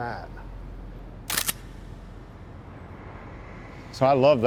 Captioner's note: camera snapping